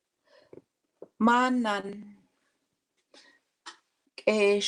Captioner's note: speaking Indigenous language